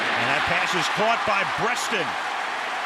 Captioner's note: cheering